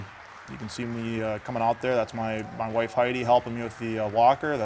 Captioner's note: applause